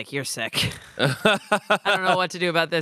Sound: laughs

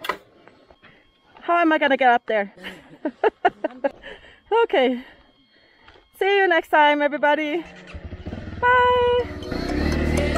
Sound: laughing

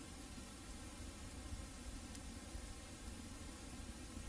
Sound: VHS static

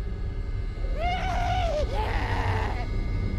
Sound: maniacal laughing

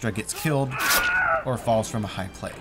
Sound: scream

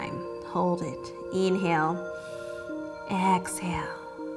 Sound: inhales

